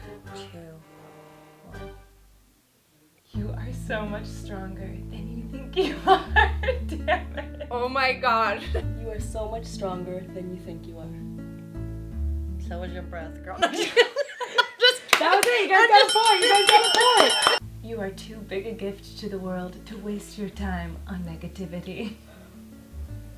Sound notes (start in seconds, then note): 5.8 laughs; 13.7 laughs; 16.0 bell dings